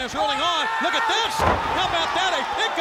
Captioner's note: wrestlers grunting; body thudding